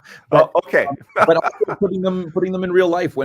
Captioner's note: laughs